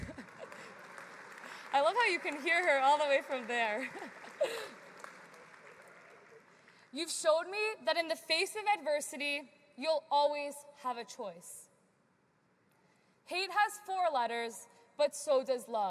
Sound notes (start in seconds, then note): 5.9 applause